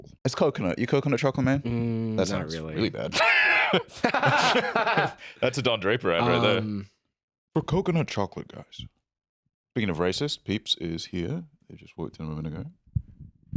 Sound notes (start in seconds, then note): 3.1 laughs